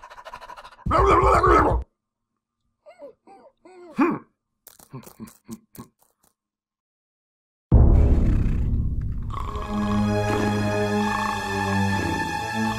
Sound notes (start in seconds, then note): 1.0 shouts loudly; 3.0 dog cries softly; 7.7 dramatic music; 9.9 shouts loudly